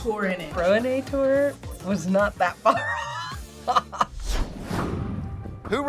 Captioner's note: laughs